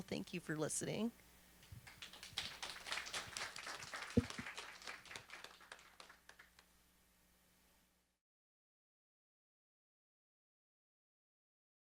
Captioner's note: applause